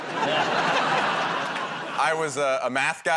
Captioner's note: laughter